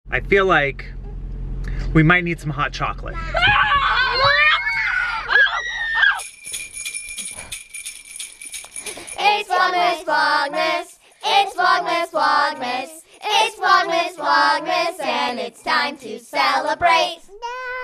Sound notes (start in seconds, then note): 3.1 children screeming; 6.3 instrumental music; 17.3 babbles